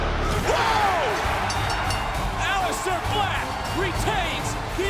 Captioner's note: bell ringing